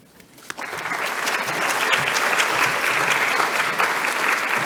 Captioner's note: audience clapping